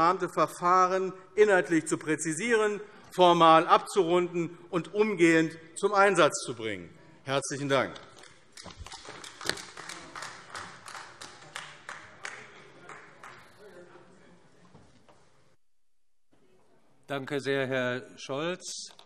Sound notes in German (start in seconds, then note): 8.6 Beifall AfD